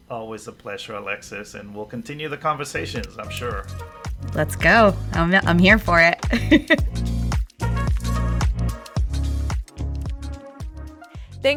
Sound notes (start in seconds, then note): 6.3 laughs; 7.9 cheerful music